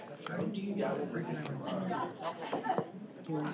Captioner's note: collective chatter